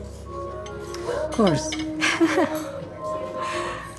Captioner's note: laughing